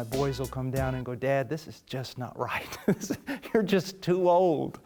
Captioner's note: risos